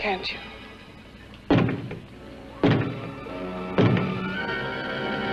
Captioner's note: three knocks